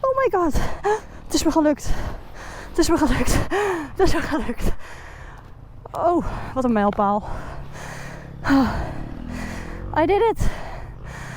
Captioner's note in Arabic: بالهولندية